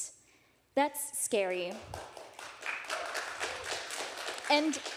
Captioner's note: audience applauding